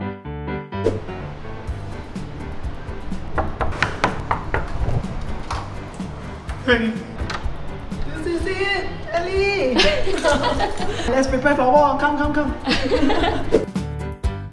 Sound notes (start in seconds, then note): 3.2 knocking